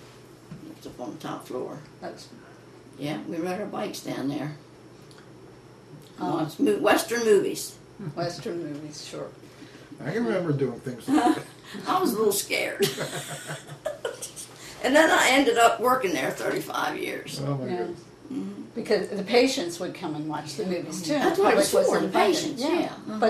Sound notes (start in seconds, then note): 12.8 laughter